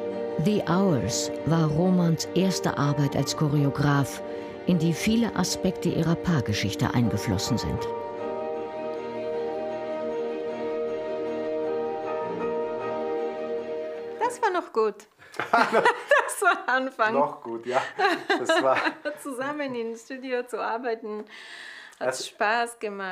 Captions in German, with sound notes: "The Hours" war Romans erste Arbeit als Choreograf, in die viele Aspekte ihrer Paargeschichte eingeflossen sind. (Aufgewühlte Musik) Das war noch gut. (Lachen) Das war der Anfang. - Noch gut, ja. Zusammen im Studio zu arbeiten hat Spaß gemacht.